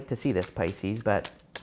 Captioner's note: cards shuffling